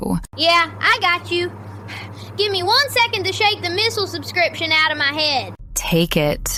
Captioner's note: breath